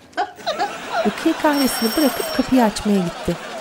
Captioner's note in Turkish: Kapı zili sesi